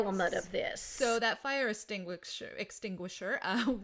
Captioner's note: laughs